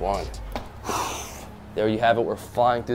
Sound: exhales

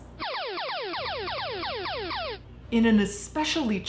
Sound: game show buzzer ringing

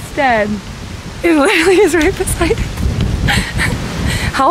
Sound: laughing

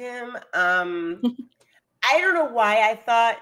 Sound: chuckles

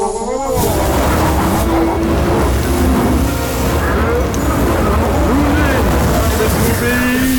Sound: Ermacs Screams

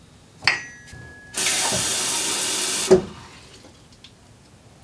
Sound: water runs

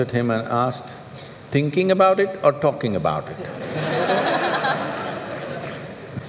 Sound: laughter

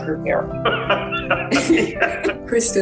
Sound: laughs

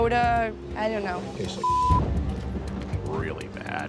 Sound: beep

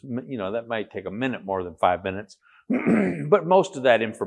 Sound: cough

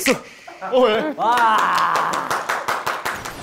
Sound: applause of embarrassment

